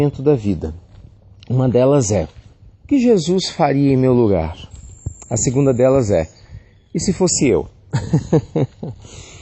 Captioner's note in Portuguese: Risos